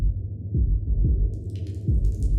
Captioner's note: water drips